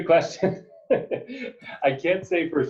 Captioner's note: laughing